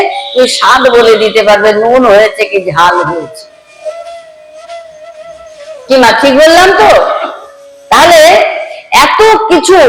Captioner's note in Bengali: চিৎকার করা